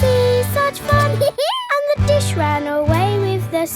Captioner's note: dog laughs